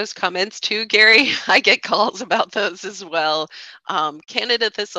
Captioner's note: chuckles